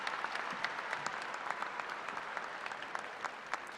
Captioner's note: cheers and applause